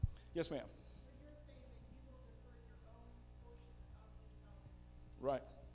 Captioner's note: female audience member speaking